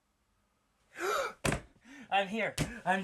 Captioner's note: exasperated breath